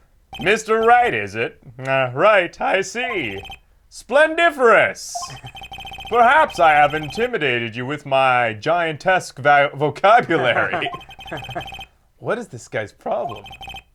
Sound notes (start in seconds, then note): 5.2 laughs quietly; 10.0 laughs